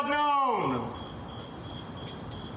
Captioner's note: crickets chirping